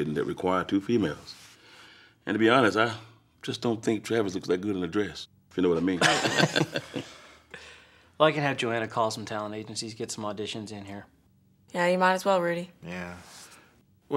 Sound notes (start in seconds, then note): 5.8 Rudy and Travis laugh